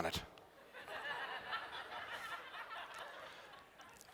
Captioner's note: laughter